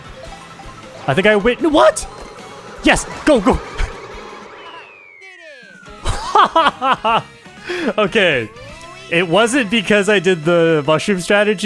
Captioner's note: laughs